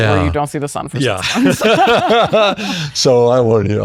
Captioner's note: laughs